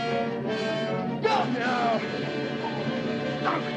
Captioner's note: groans